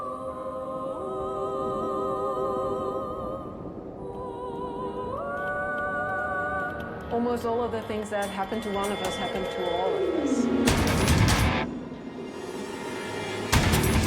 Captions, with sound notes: - [Voiceover] Almost all of the things that happened to one of us happened to all of us. (intense metal music)